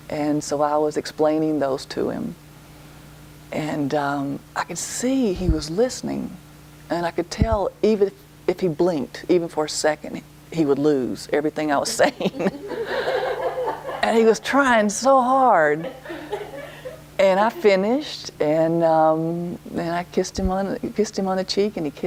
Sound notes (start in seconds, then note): 12.0 laughter